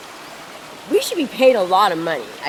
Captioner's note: laughs